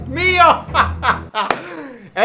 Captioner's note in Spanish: clap